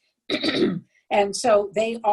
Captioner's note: clears throat